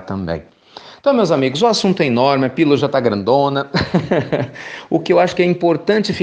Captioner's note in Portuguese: risos